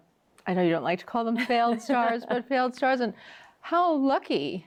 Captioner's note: laughs